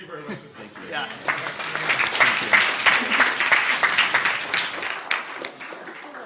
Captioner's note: applause